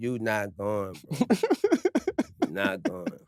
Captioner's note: laugh